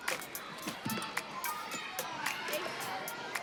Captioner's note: children chatter